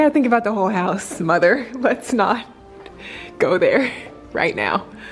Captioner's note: laughs